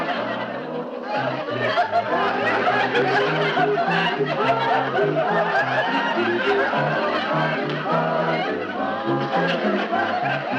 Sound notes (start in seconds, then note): 0.1 quiet music continuing; 4.0 audience laughing